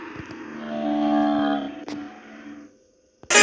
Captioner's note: whale sound pitched down